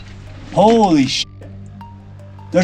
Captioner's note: beep